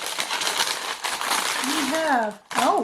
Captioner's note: crinkling